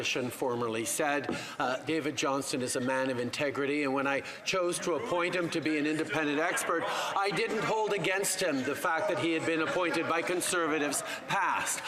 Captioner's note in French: voix de l'interprète